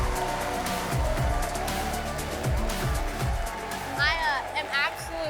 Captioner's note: all applauding and cheering